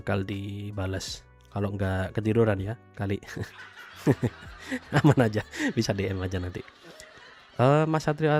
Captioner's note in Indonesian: tertawa